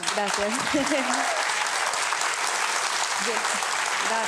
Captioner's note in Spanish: Aplausos